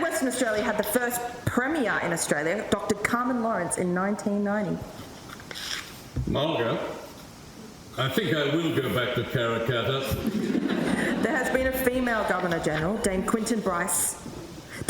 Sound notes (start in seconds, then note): 10.0 audience laughs